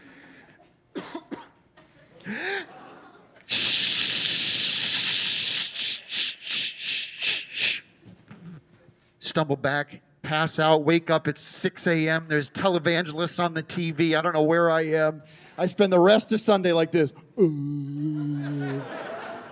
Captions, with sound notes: [coughing] [imitating urinating] Stumble back, pass out, wake up at 6:00 a.m. There's televangelists on the TV. I don't know where I am. I spend the rest of Sunday like this, "Uh..."